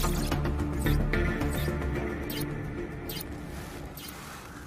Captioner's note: machine beeping